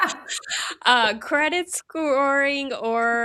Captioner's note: laughs